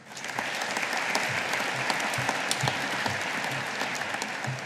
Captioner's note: audience applauding